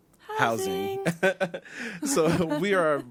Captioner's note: presenters laughs